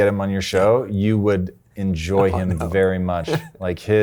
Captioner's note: chuckles